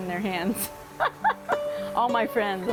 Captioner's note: laughs